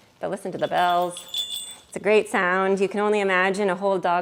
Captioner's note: bright ring of jingle bells